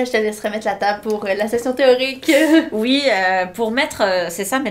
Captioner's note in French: rires